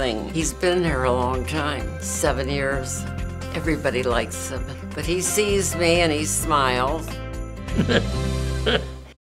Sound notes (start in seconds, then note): 7.7 chuckles